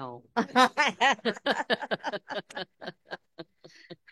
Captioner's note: all laughing